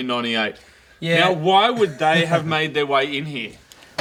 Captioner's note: laughs